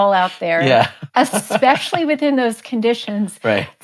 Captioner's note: chuckles